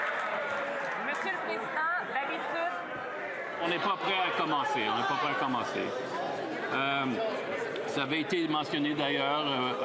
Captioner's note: some Applause